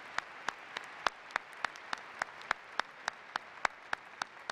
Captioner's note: applause